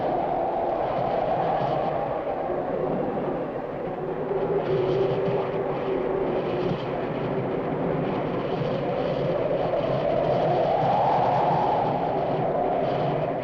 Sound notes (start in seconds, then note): 2.2 wind howling